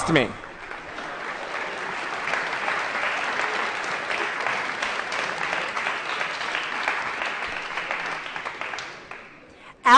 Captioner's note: applause